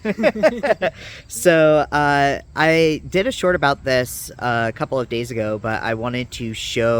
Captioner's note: laughs